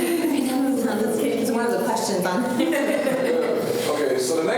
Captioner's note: laughter